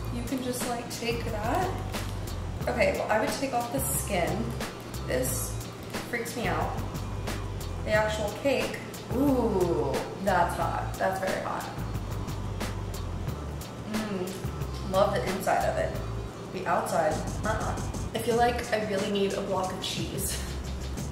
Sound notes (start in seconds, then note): 12.5 mellow vibe music; 13.8 moans